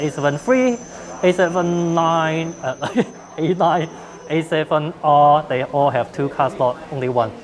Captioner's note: laugh